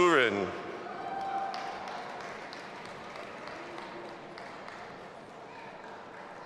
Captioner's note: audience applauding and cheering